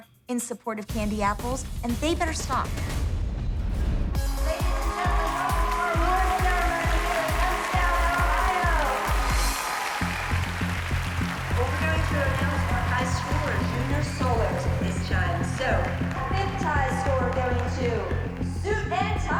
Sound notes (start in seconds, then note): 4.1 cheering and applause; 8.3 cheering and applause